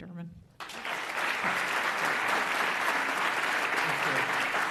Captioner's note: audience applauds